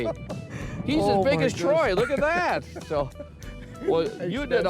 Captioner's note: mumbles